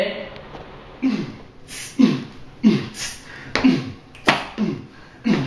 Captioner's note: beat-boxing